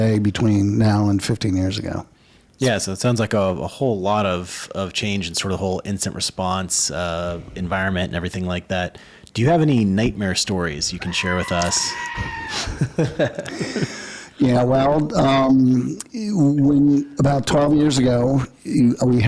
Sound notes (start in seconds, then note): 11.0 man screaming; 11.0 laughing